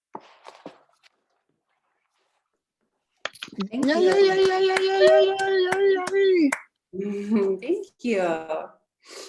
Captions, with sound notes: Thank you. (cheering) (clapping) Thank you.